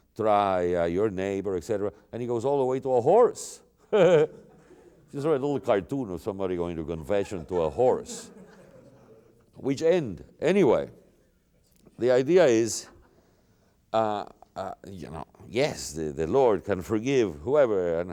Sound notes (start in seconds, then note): 4.1 laughs; 7.1 laughter